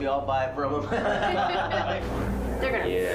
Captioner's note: construction team laughs